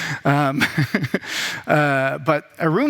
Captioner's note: laughs